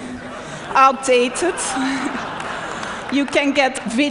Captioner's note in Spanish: Risas